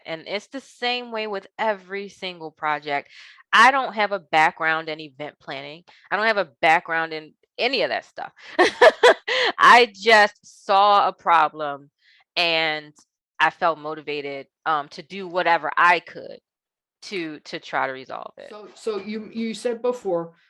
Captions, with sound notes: It's the same way with every single project. I don't have a background in event planning. I don't have a background in any of that stuff. (laughing) I just saw a problem and I felt motivated to do whatever I could to try to resolve it. So, you said before,